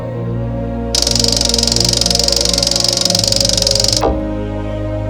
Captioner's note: object clicking